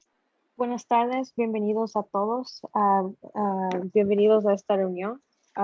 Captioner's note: speaking in foreign language